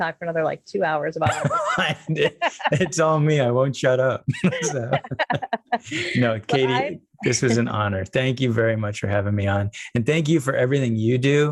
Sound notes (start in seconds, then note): 1.3 overlapping chatter; 3.7 laughing